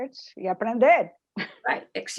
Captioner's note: spanish